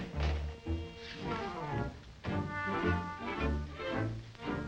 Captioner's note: foot scrapes